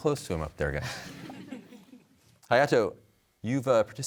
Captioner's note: laughter